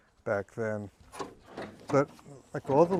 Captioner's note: machine clunking